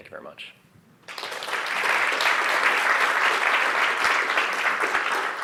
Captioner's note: applause